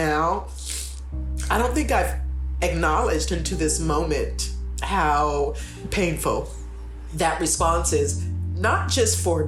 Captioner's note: sniff